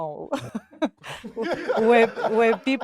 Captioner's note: laughs